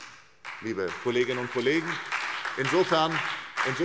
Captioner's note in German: Beifall SPD und BÜNDNIS 90/DIE GRÜNEN